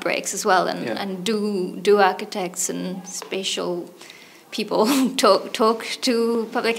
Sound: chuckles

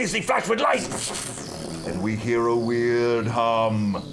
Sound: weird humming

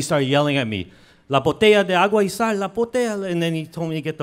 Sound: speaks in foreign language

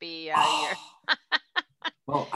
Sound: laughing

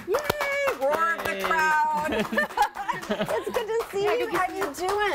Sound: applause

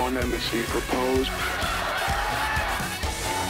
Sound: laugh track

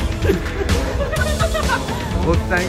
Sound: giggles

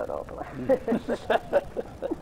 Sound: laughs

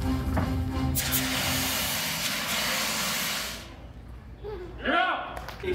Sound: fire extinguishers extinguishes

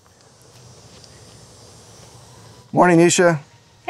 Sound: nature sounds and cicadas singing

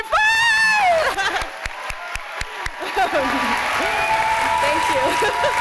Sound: cheering

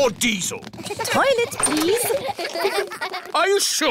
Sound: kids giggling

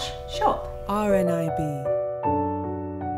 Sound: voiceover

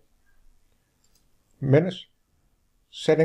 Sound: click

